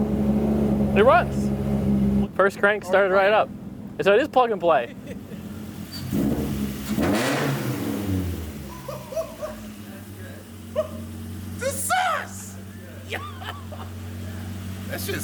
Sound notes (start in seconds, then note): 6.2 amused laughing; 6.2 car engine roaring; 9.6 pat